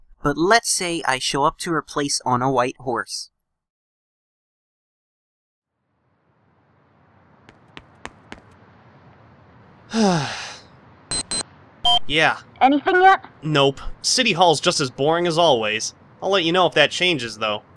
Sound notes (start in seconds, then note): 9.8 sighs; 11.1 wrist device beeps